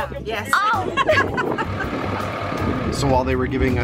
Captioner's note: laughing